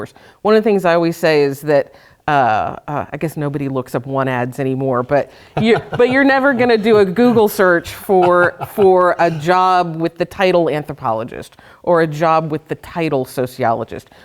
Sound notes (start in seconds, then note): 5.4 laughter